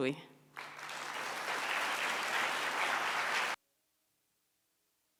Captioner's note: audience applauds